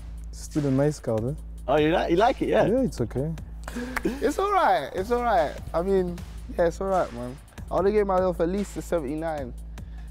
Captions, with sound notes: - still a nice card - Oh, you like.. you like it. Yeah? - Yeah. It's okay. - [clap] It's alright. It's alright. I mean. Yeah. It's alright, man. I wanted to get at least a 7